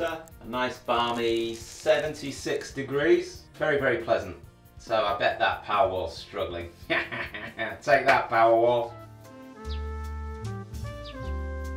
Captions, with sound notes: a nice balmy, 76 degrees, very, very pleasant. So I bet that Powerwall is struggling (laughs) take that Powerwall. (soft music)